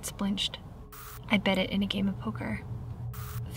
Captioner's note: static crackles; static crackles